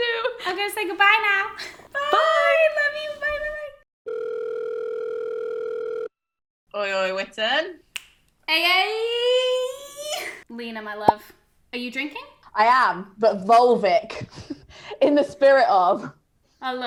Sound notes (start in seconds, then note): 4.0 phone rings; 8.7 screams